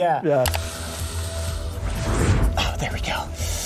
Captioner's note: snake hissing